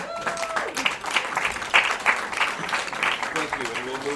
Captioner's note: attendees clapping loudly